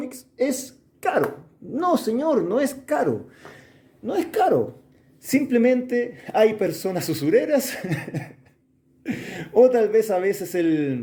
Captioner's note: laughs